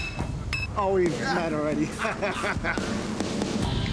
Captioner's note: laughs